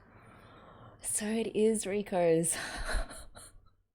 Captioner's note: disbelieving laughter